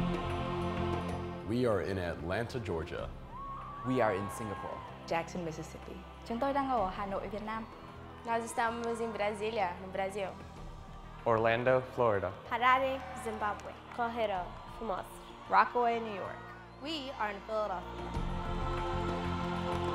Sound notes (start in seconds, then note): 6.7 speaks foreign language; 14.1 woman speaks foreign language